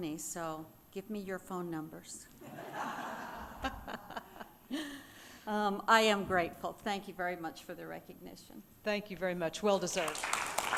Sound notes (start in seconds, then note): 2.5 audience laughing